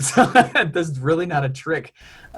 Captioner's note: laughs